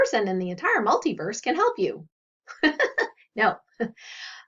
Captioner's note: laughs